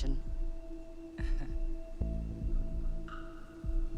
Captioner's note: scoffs